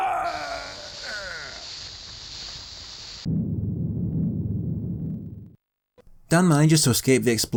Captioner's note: in-game audio